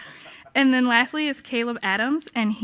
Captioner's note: laughing